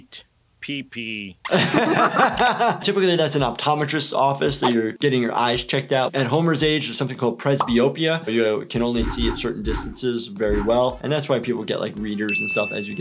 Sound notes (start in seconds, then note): 1.4 laughs